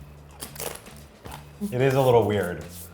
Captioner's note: chewing